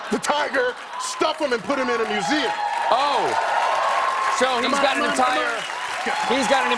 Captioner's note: cheers and applause